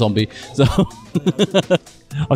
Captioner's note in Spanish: risas